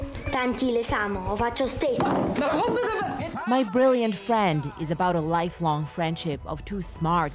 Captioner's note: speaking italian